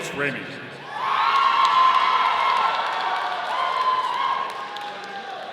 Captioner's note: audience cheering